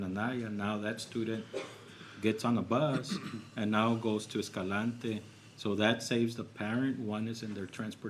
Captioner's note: clears throat